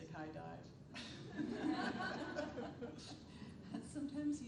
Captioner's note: attendees laughing